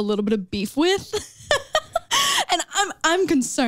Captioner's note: chuckles